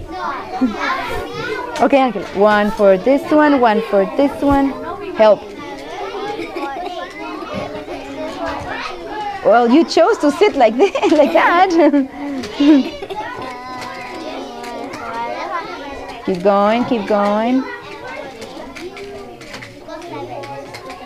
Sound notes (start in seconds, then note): 5.6 laughs; 13.4 laughs